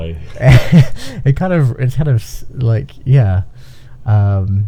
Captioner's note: laughing